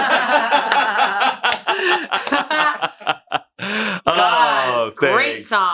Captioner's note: laugh